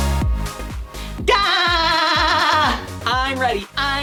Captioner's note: SpongeBob laugh